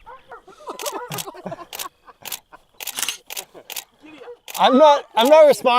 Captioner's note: everyone laughs; click, click, click, click, click